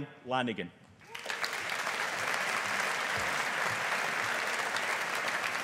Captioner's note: audience applauding